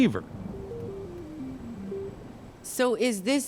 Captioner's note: thunder rumbling